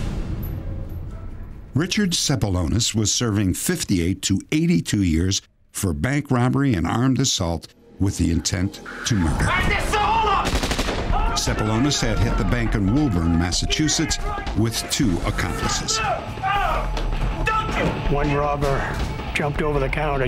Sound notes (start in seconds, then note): 10.3 gunshots